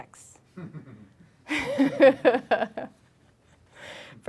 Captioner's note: laughing